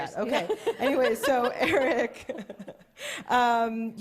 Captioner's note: chuckles